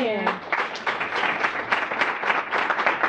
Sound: applause

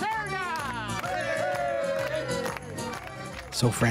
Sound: crowd cheering

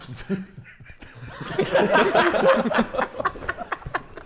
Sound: Sidemen laughing

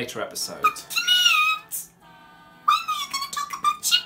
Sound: high pitched

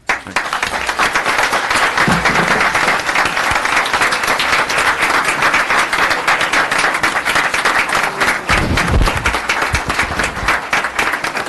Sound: applause

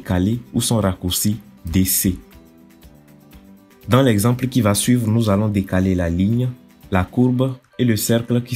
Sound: DC in French

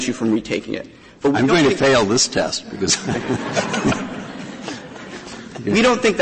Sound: laughter

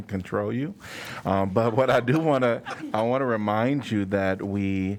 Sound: laughter

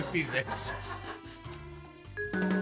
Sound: laughs

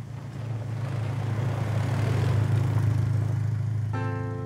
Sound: engine rumbles

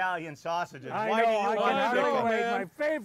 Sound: chattering

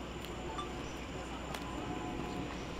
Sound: cell phone beep

